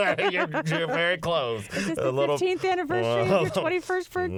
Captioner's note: laughter